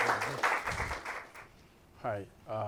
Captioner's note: applause